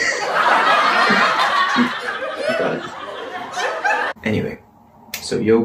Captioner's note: audience clapclapclap